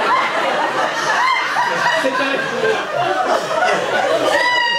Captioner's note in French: rires public; rires très aïgu qu'on appellera ultra son